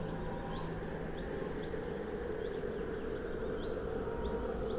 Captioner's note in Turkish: Kuşlar ötüyor